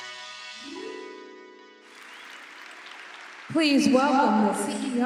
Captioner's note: applause